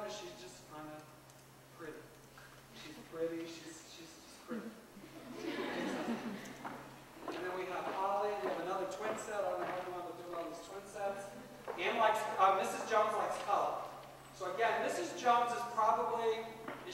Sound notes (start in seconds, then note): 5.0 laughter